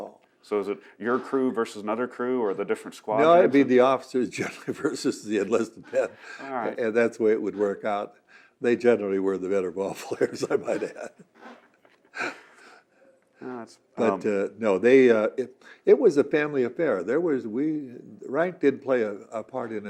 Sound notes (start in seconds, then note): 4.3 laughs; 12.9 laughing